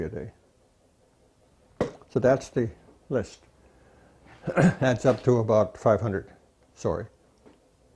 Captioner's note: rire